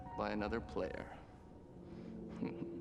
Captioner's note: snickers